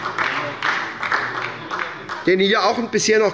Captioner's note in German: Beifall bei der SPD